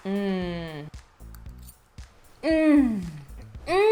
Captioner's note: humming